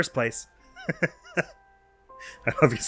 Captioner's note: laughs